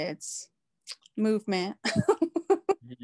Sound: laughs

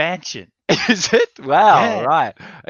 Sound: laughing

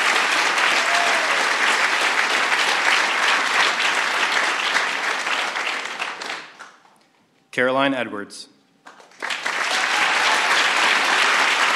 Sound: applause

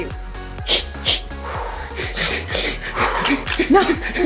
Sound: heavy breathing

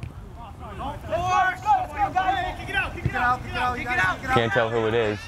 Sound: players talking and yelling

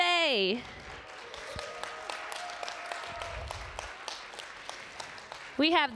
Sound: applause

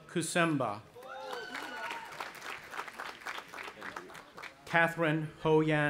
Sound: audience applauding and cheering

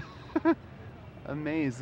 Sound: laughs

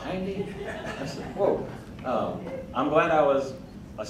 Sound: crowd laughing

